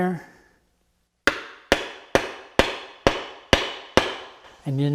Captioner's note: hammering